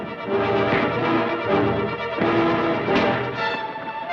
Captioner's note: thud